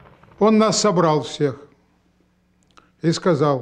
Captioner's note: speaking russian